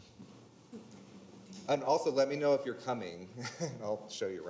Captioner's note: chuckles